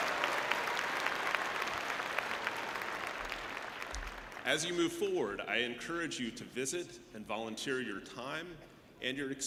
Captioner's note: cheering and applause